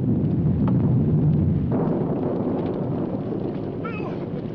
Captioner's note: thunder rumbling